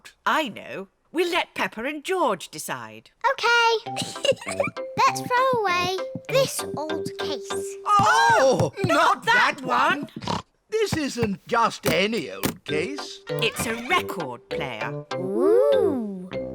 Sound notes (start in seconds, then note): 3.9 giggles; 10.2 snorts